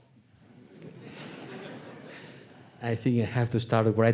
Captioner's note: audience laughing